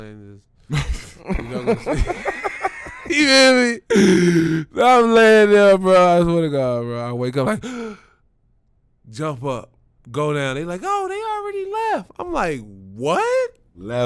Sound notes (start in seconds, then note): 0.7 laughing; 7.6 gasps